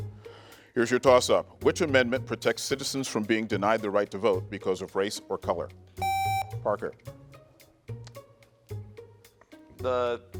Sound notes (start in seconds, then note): 6.0 buzzer beeps; 7.4 gentle music